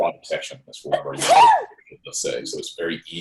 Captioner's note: loud sneeze drowns out speaker